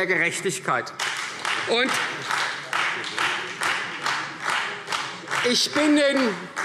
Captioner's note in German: Beifall Freie Demokraten